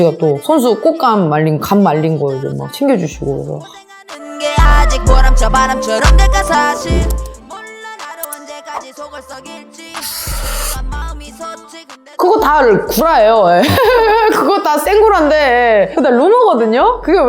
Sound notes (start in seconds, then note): 13.6 laugh